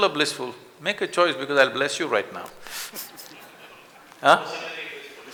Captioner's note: laughter